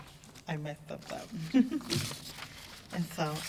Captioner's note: laughs